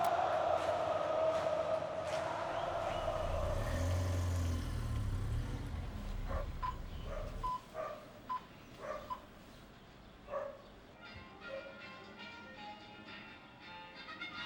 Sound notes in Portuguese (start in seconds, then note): 2.3 ruído urbano